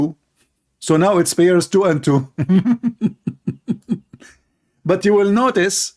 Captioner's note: laughing